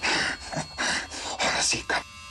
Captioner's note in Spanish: Respiración agitada